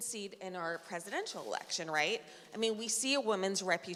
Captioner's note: none